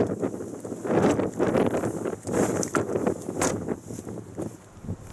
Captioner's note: closing boot